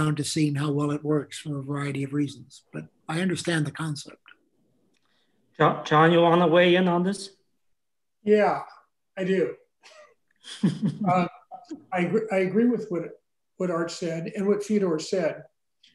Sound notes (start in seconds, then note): 9.8 laughs